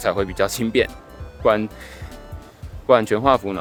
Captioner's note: gasp